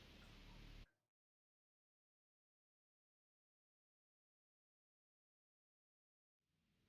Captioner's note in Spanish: silencio